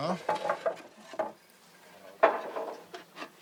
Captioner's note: clattering